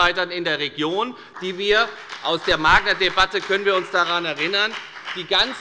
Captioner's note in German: Beifall bei der FDP